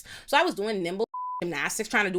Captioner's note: beep